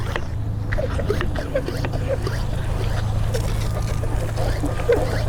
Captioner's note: equipment squishing